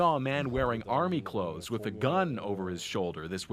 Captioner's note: speaking foreign language